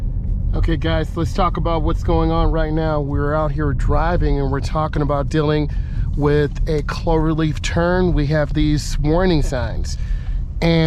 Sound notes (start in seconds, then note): 1.9 heavy traffic driving